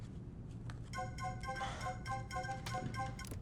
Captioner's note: phone ringing